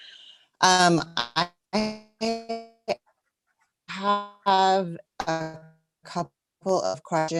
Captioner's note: mic cuts out